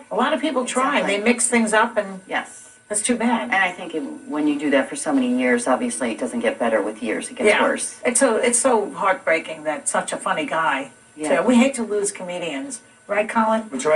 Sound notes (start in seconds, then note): none